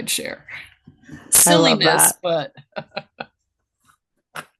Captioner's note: laughs